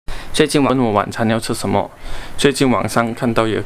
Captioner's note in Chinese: 客家话